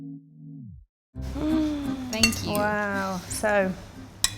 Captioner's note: gasps